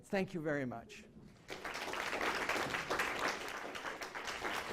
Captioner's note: applause